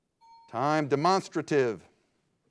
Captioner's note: bell dings